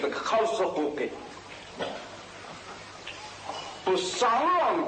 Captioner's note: static